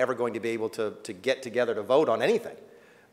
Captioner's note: none